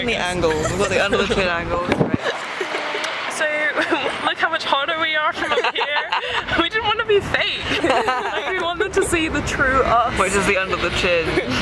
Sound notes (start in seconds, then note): 0.4 laughing; 7.6 laugh